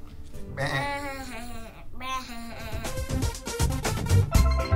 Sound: both imitate sheep

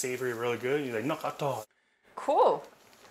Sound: speaking in Hmong

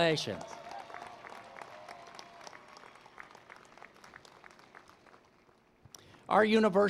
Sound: applause

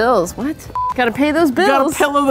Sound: beep

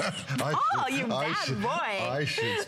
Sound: laughter

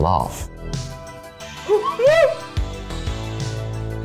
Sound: laughs

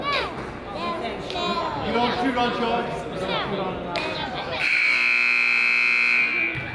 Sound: children chatter; buzzer honks

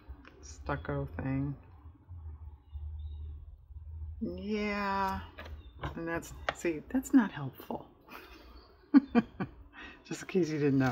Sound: laughs

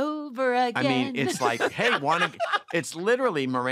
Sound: laughter

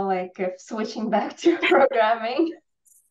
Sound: laughs

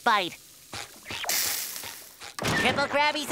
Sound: sizzling

